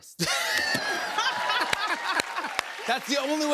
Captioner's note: laughs